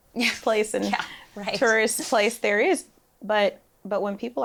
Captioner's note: laughs